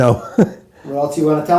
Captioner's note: chuckles